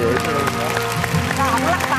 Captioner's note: claps